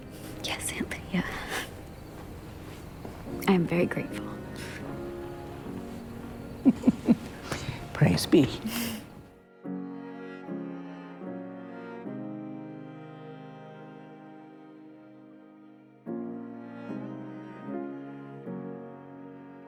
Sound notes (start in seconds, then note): 6.6 Aunt Lydia laughs; 8.6 Janine laughs offscreen